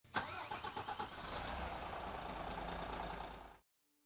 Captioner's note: motor starting